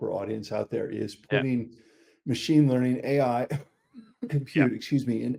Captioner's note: coughing